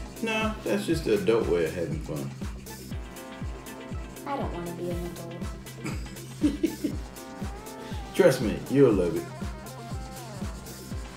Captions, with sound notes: - No, that's just a adult way of having fun. - I don't wanna be an adult. (Dad laughing) - Trust me, you'll love it.